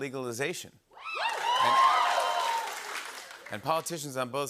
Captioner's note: cheering and applause